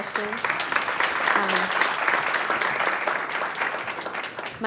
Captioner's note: crowd applauds